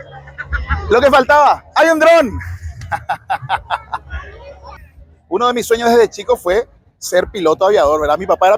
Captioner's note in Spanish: Risas